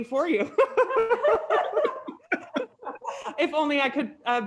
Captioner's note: panel laughing